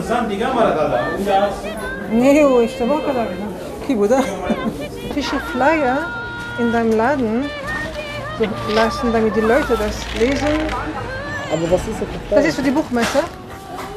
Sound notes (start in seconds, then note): 4.1 laughter